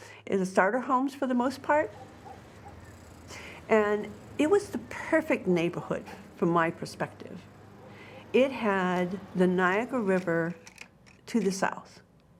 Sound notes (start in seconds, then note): 1.6 dog barking in distance